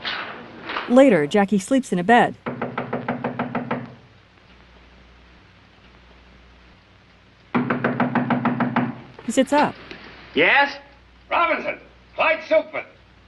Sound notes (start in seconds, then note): 2.4 knocking at door